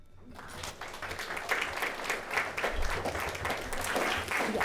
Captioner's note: audience applauding